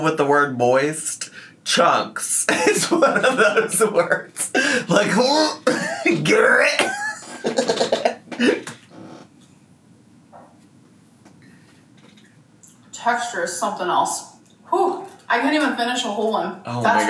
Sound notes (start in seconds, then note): 2.4 laughs